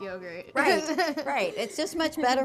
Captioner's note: laughter